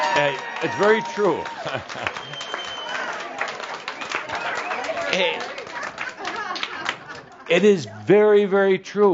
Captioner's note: laughter and applause